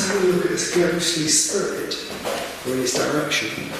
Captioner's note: none